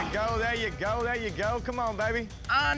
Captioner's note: grunting